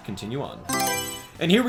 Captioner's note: Mario Selection Sound